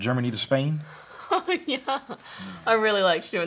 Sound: laughs

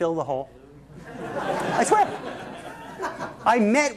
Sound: laughter

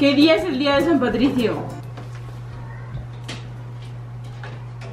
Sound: speaks foreign language

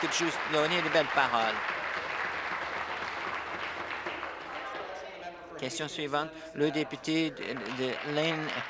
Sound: applause

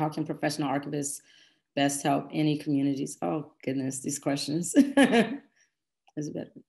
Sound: laughs

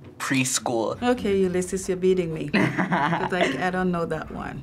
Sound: chuckling

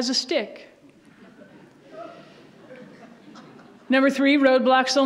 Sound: audience laughs

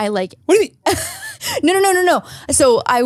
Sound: laughs

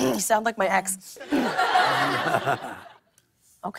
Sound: clears throat

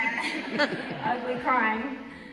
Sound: audience laughter

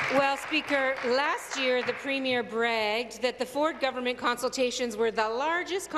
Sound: applause

